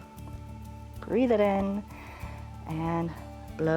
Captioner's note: inhales